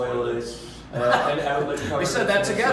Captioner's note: laughs